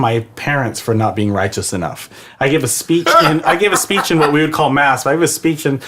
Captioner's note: laughs